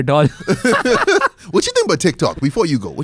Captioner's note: laughs